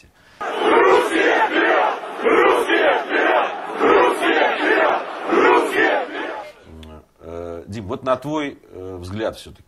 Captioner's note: crowd chanting